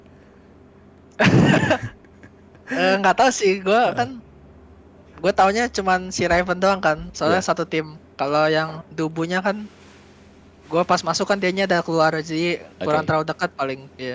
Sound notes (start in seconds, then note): 1.2 laugh